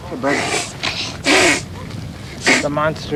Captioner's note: snorting